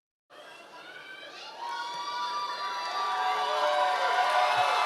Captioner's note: audience cheering